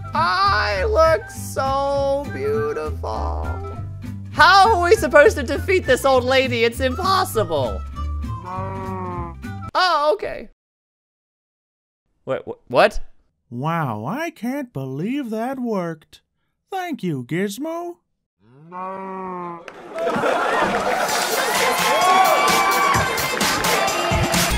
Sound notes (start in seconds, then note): 8.5 moo of disagreement